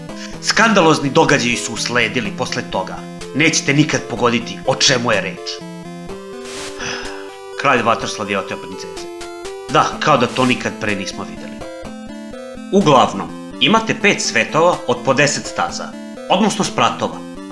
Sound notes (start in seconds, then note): 6.7 sigh